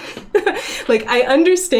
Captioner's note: laughs